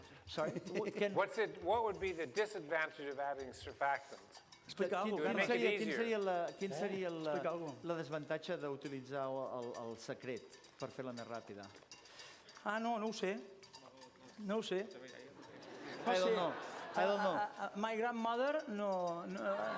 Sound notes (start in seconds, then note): 8.6 non-english speech